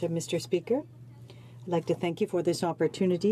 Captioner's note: speaking in French